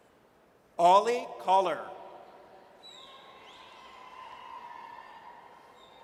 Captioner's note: audience cheers